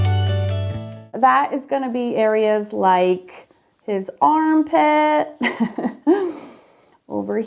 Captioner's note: laughs